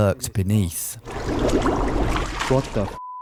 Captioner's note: violent gurgling; beep